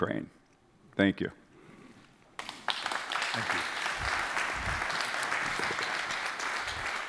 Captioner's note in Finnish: Applause